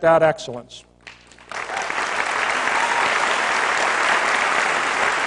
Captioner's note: applause